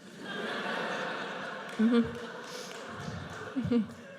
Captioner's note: audience laughs